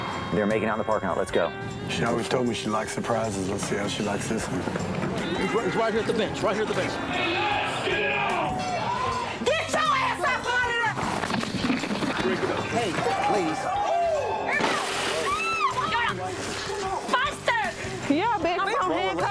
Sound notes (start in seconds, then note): 7.4 shouting; 14.7 screaming